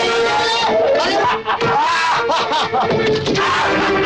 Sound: laughs

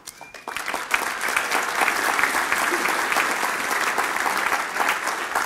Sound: applause

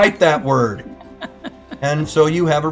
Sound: laughing

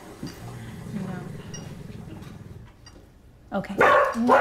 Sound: dog still growling; dog barks

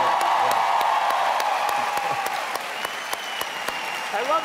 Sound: cheering

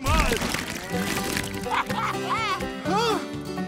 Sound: laughing

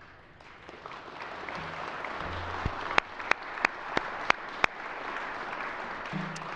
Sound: applause

